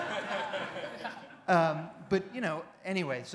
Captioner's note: laughter